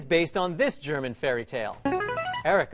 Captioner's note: ringer